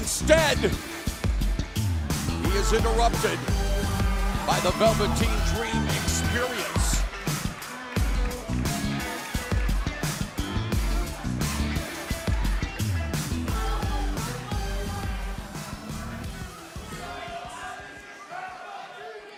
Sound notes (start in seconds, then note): 7.5 crowd cheering